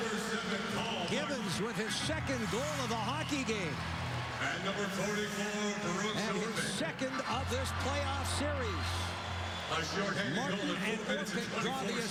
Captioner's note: cheers and applause